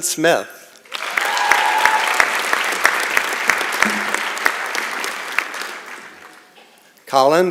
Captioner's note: applause and Cheering